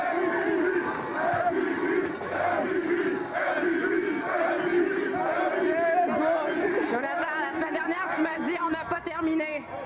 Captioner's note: cheers and Applause